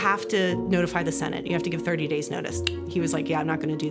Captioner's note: clicks